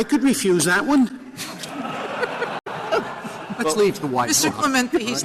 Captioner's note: laughter